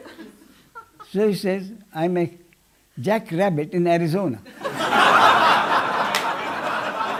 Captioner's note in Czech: smích